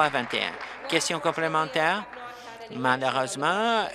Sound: applause

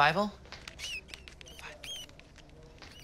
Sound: mouse squeaks

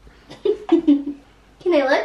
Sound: laughs

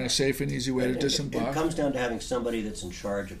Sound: voiceover

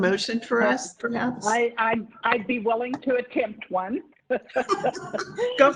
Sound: laughter

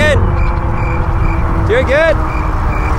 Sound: crickets chirping

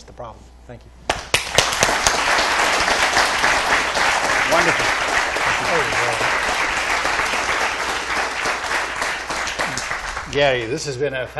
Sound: applause

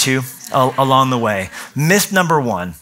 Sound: laughter

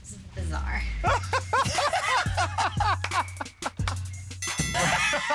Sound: laughter

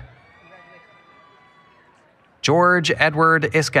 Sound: applause, Cheering

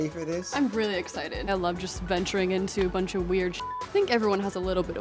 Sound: beep

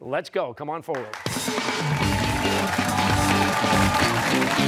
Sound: cheers and applause

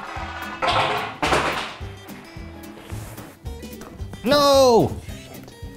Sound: pen clatters on floor; whispers

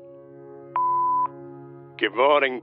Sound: phone beeps

